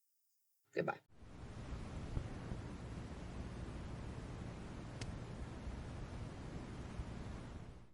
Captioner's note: static